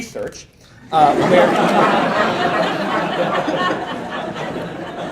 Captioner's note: laughter